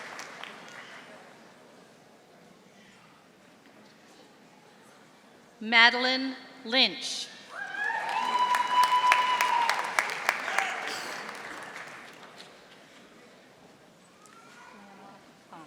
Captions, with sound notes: Madeline Lynch. (audience applauding)